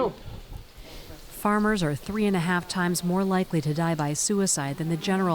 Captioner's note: voice-over